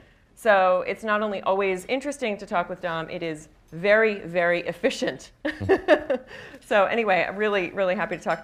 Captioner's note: laughs